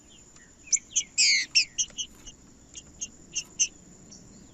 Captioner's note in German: trinca ferro cantando